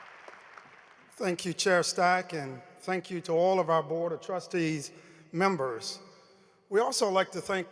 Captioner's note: applause